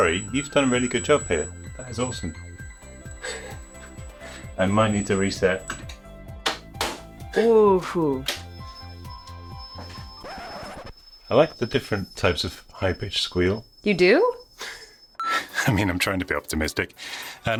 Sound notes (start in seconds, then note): 6.5 game cartridge clacking; 7.4 console squealing; 10.1 record scratching